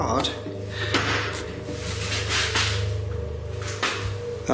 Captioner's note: loud banging